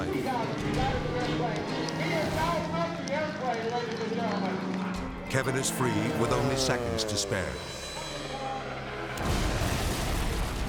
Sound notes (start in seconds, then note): 7.3 plane whizzing; 9.2 explosion rumbles